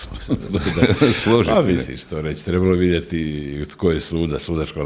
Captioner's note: laughter